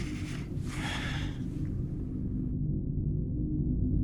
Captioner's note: Joseph inhaling; Joseph exhaling